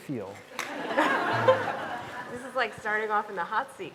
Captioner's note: audience laughing